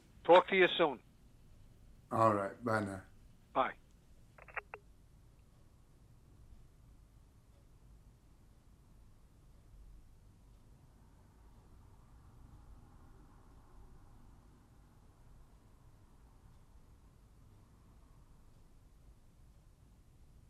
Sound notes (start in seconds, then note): 4.7 phone receiver clicking